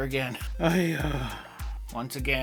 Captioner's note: groans